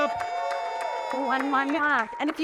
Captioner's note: audience applauding and cheering